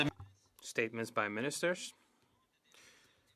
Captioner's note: speaking French